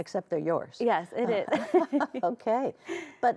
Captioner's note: both laugh